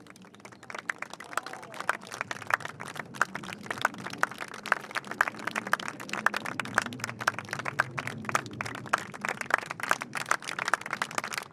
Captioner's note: applause